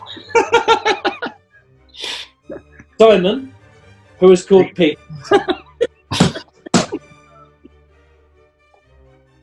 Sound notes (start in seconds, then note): 0.0 giggling; 4.6 laughing; 6.7 thumping